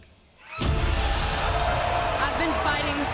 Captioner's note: crowd cheering